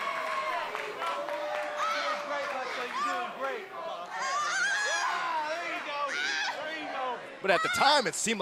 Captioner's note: crowd cheering